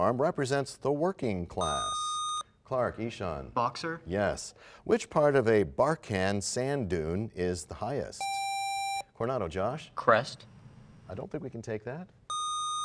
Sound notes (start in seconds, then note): none